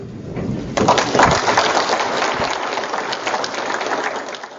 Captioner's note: crowd applause